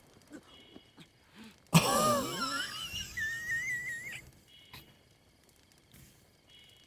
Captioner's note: laughing